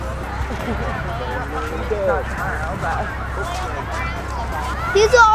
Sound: people chattering

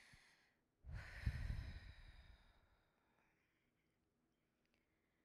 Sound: deeply exhales

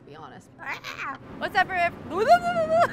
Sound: shrieking

